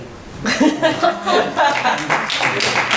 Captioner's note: laughing; clapping